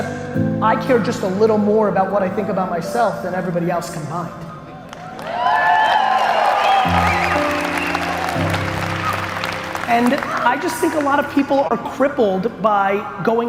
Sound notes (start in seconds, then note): 4.8 applause and cheering from audience